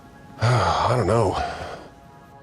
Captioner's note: sighs